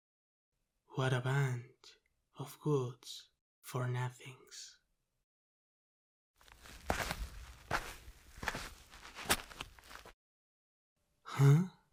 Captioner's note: sound of footsteps